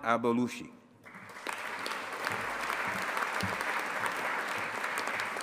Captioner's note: audience applauding